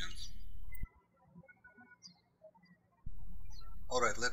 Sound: birds chirping

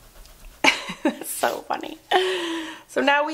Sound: laughs

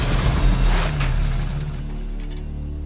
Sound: engine stops

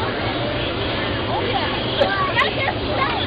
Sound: chatter

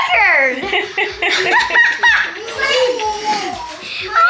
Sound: laughing

